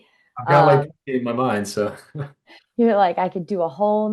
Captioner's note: laughs